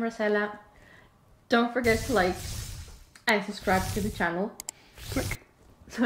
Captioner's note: click